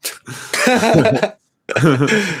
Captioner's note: laughing